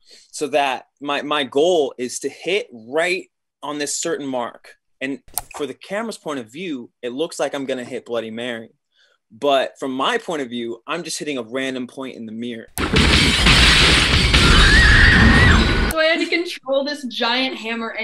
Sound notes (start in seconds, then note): 12.8 glass shatters; 14.4 Bloody Mary screams